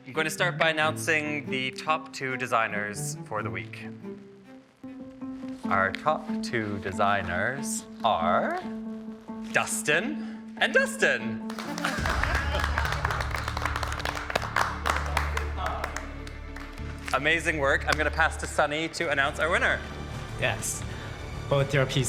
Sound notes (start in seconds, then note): 4.8 gentle suspense music; 11.4 all clapping; 11.7 chuckling